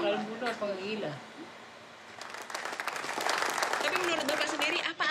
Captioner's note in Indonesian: tepuk tangan